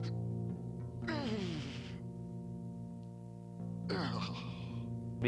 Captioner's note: Groden whines